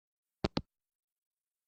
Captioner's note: hangup